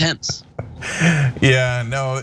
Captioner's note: laugh